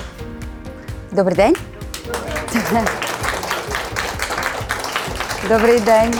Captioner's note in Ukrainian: оплески